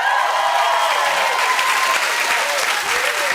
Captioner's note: cheers and applause